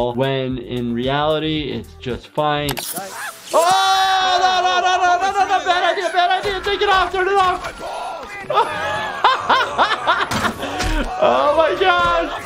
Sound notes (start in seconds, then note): 3.7 stammering inarticulately; 8.4 laughing